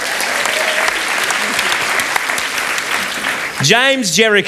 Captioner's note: applause